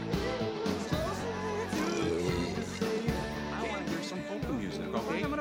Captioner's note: belches